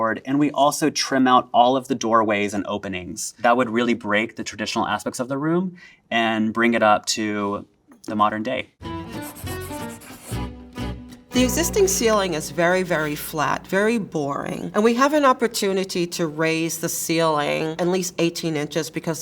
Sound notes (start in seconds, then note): 8.8 upbeat music; 9.2 graphic scratching